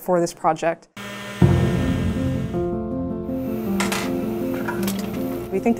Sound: mechanical noises

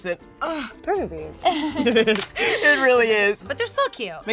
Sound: laughs

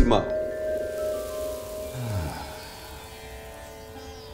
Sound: sighs

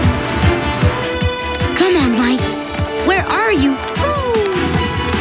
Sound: hooting

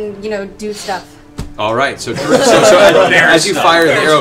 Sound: laughter

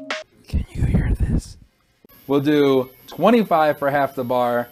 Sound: whisper

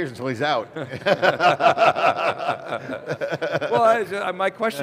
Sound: all laughing

